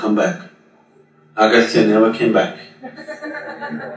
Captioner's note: meditators Laugh